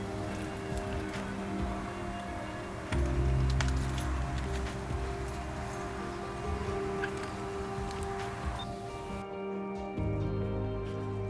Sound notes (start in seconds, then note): 3.4 keys clanking; 9.1 switch clicks